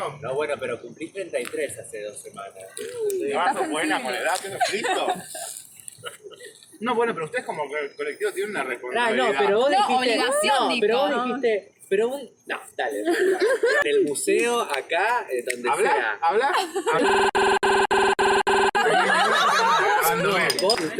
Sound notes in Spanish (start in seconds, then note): 4.4 Risas de fondo; 13.0 Risas de fondo; 17.0 Ruido distorsionado; 18.7 Risas